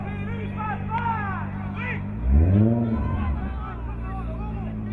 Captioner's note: crowd muttering